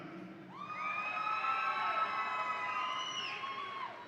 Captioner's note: audience cheering